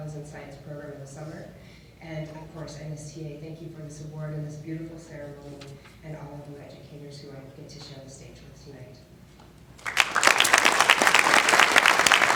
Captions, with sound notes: this including The Fellows In Science in the summer. And of course, NSTA, thank you for this award and this beautiful ceremony and all of you educators who have shared this stage tonight. (audience is clapping)